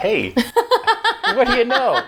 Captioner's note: laughing